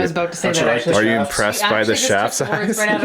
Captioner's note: voiceover